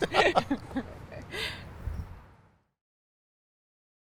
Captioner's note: laughs